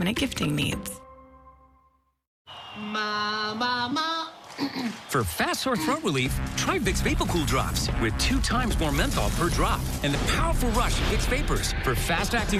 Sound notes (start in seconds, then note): 4.6 clears throut